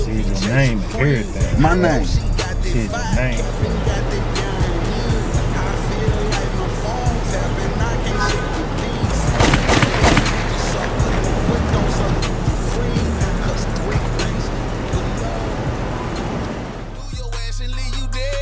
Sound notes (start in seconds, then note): 4.4 trap music continues; 9.0 gun firing